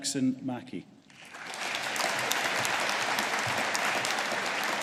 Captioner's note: audience applauding